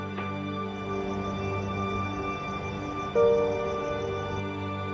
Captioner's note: melancholy music; crickets chirping